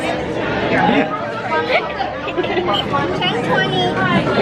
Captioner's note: laughter